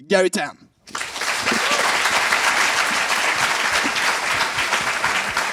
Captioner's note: applause